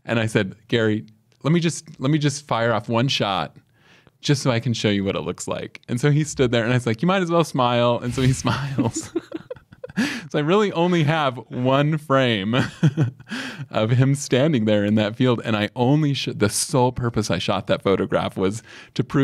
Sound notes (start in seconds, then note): 8.4 both chuckle; 13.0 chuckles